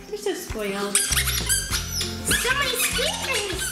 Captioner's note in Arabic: الصرير